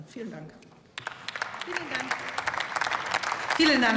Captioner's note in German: Beifall